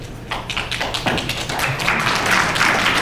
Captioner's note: applause